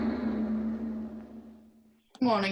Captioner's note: bell tolling